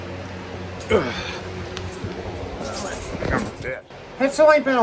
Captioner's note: grumbles as she gets up